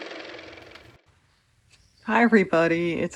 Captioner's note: car motor